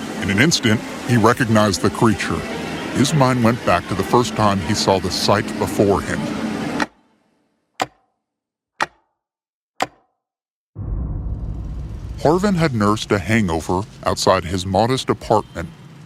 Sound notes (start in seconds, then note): 7.8 clock ticking; 11.8 city bug traffic